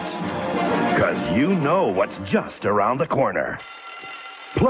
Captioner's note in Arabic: رنين جرس المدرسة